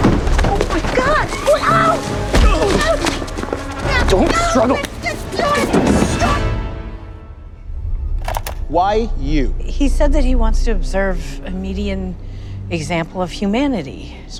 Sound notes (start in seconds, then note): 0.1 yells; 2.3 grunts